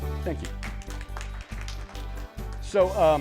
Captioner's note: applause